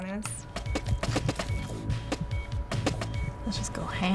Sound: bones chipping away

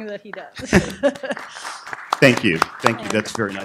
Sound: applause

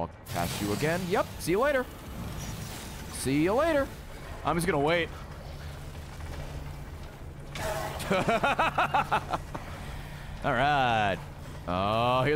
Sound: laughs

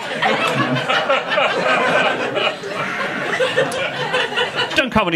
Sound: audience laughing

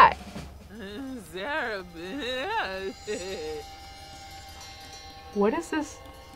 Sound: woman mumbling; eerie music

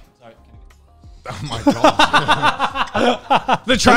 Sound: laughs

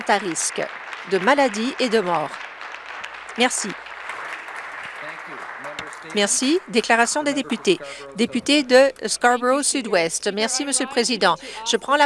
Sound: applause

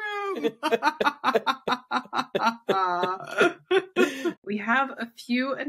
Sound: laughs

